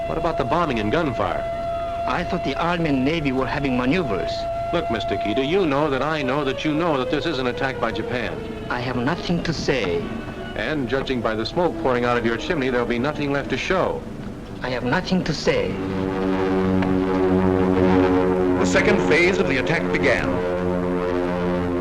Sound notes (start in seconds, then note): 16.7 planes flying overhead; 19.1 voiceover